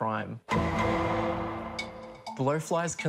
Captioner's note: law & order clang plays